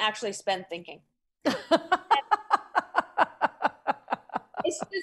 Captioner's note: laughs